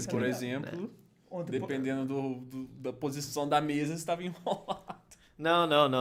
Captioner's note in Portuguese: risos